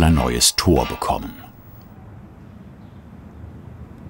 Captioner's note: soft birdsong